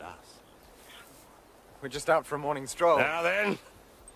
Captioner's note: whispers